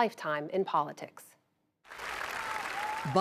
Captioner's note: cheering and applause